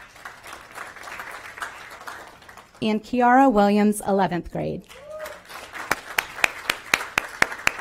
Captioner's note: applause